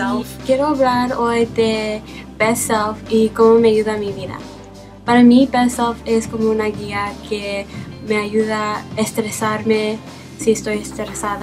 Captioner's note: speaking spanish